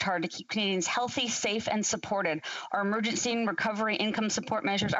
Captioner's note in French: voix de l'interprète